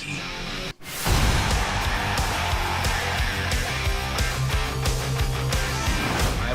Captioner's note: crowd cheering